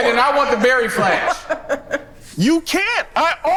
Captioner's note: laughs